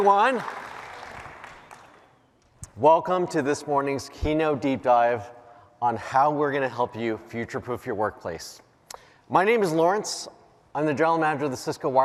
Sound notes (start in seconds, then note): 1.8 cheers and applause